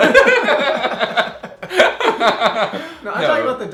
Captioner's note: laughing